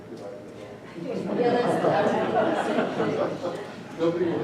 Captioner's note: laughter